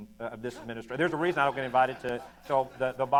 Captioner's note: laughter